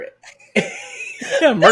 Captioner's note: laughs